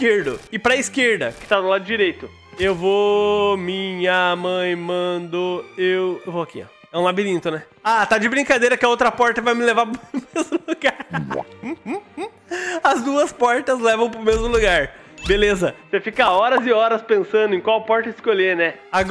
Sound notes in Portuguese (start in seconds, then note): 11.6 Risos